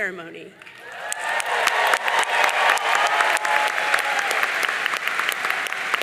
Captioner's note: audience cheering and applauding